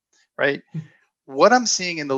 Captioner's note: chuckles